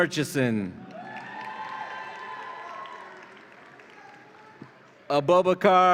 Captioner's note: audience applauds and cheers